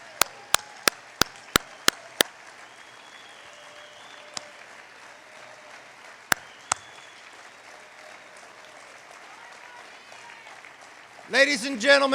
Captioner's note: applause